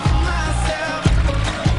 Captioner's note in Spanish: ovaciones